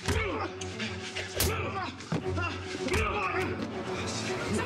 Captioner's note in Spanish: golpes; quejidos